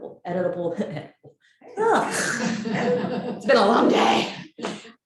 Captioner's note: audience laughs